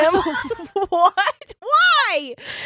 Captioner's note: laughing